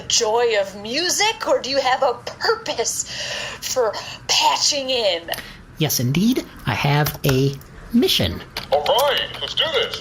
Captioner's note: typing